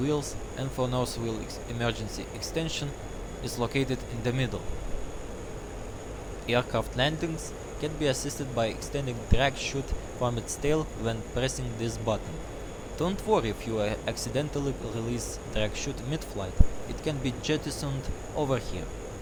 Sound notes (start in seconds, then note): 12.6 russian accent